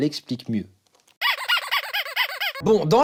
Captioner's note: squeak squeak squeak squeak